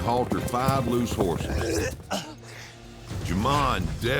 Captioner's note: throwing up